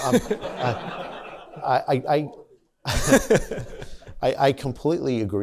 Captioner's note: laughter